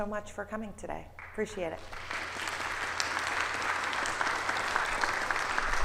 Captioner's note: audience applauding